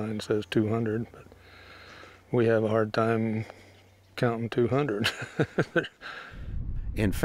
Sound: laughs

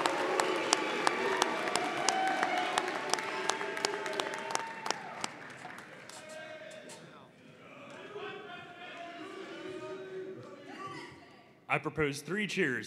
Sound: applause

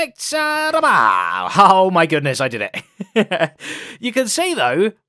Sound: laughs

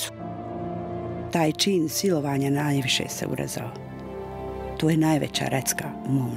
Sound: woman speaking in foreign language

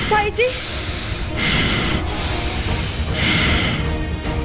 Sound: laboured breathing

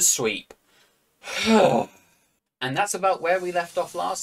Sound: exhale

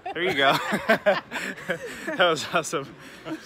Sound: laughter

